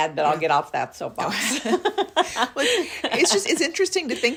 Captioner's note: laughs